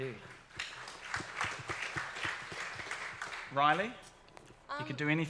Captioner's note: audience applauds